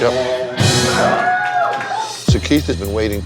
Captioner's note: cheers, applause